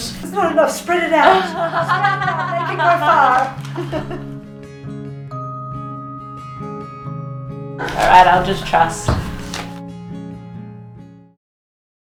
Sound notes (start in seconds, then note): 3.6 giggling; 5.3 peaceful acoustic music